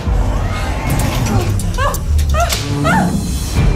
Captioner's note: elena vernham screams